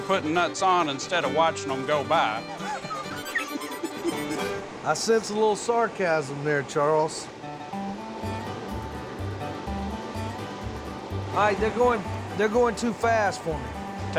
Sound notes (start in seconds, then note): 2.4 laughs; 7.5 bluegrass music